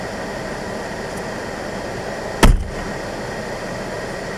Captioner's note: driver's door is closed